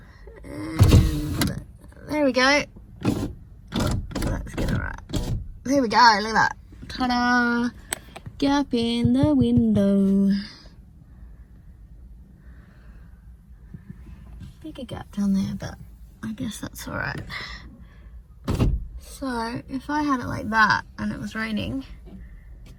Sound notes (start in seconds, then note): 0.7 window whirrs and clunks; 3.6 many window clunks; 8.0 sing-song; 18.4 window clunks